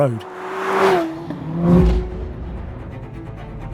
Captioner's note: car zooming; suspenseful orchestral music